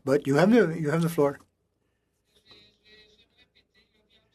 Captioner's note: speaking French